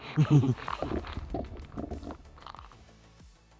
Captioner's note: unsettling laughter